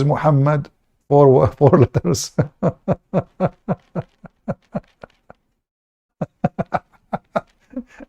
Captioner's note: Ketawa